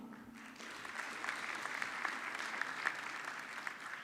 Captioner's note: audience clapping